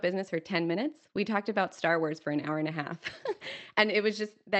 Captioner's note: laughs